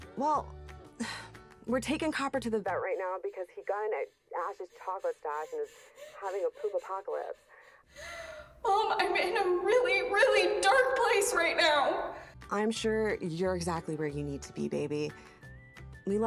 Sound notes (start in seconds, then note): 7.7 Abby pants; 12.5 cheerful music